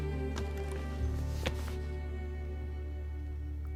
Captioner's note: laptop closes